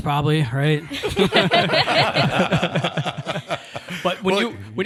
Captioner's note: all laughing